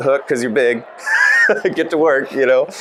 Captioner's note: laughs